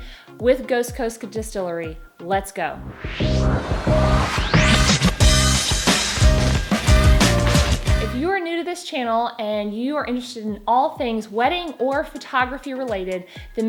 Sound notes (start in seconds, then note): 2.8 air whooshing; 4.2 upbeat music